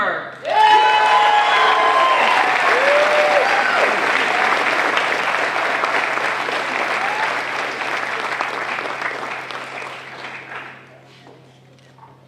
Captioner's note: applause